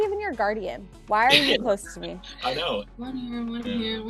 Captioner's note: laughs